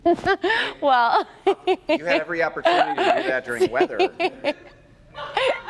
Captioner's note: laughter